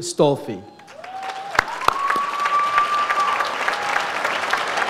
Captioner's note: audience applauds